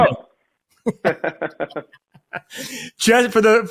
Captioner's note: both laugh